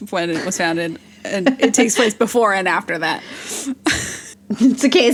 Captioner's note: laughs